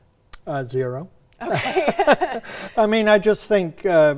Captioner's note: both laugh